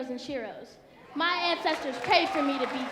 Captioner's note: audience cheering